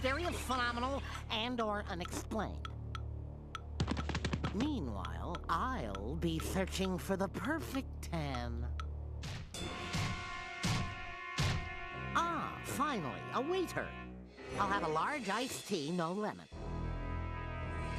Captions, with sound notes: MYSTERIOUS, PHENOMENAL, AND/OR UNEXPLAINED! [timer ticking] MEANWHILE, I'LL BE SEARCHING FOR THE PERFECT TAN. AH, FINALLY, A WAITER. I'LL HAVE A LARGE ICED TEA, NO LEMON.